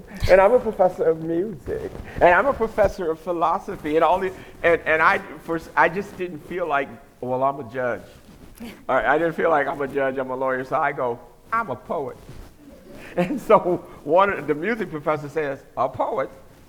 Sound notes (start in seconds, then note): 12.8 laughter